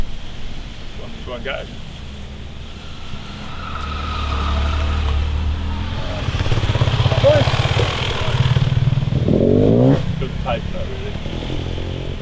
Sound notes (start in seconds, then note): 4.0 loud bike engines